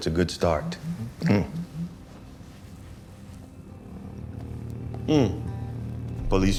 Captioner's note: phone vibrating